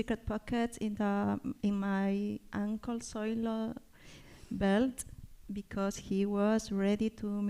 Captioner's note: spanish